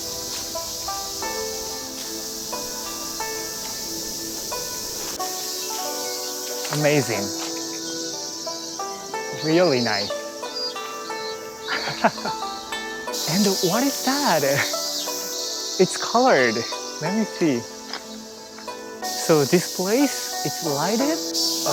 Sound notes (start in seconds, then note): 11.6 chuckles